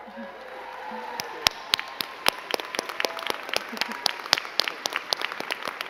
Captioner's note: crowd cheering and clapping